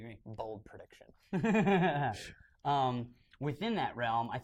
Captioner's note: laughter